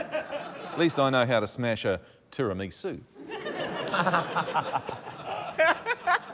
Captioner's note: laughter